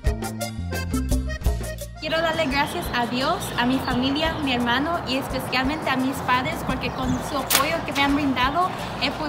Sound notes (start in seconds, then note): 2.0 speaks in foreign language